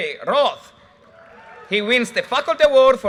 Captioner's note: audience cheers and applause